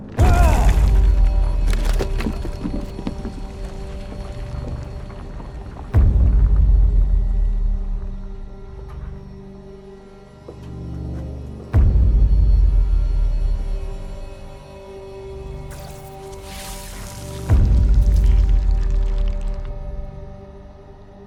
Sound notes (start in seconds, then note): 0.2 grunting; 2.4 crumbling; 2.4 dramatic orchestral music; 15.6 zapping; 16.8 dramatic orchestral music